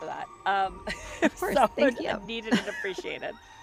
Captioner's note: laughs